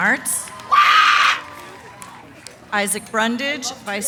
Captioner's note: cheering